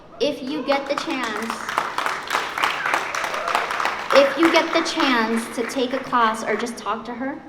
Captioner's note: applause